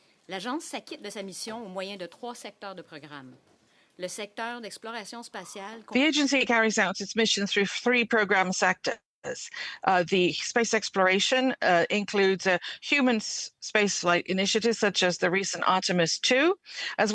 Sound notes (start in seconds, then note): 5.2 speaking French